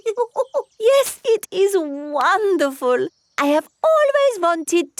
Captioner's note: laughs